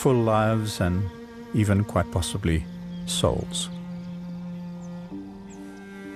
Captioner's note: animals calling